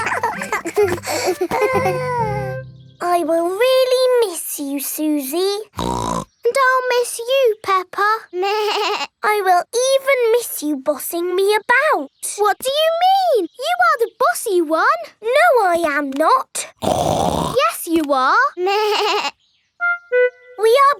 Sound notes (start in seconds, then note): 5.7 snorts; 9.0 bleats; 16.7 snorts; 18.8 bleats